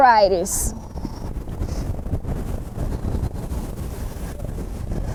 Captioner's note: wind blowing